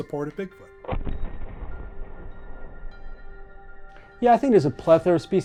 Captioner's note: thunderous booming